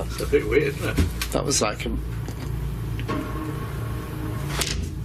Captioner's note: loud thumping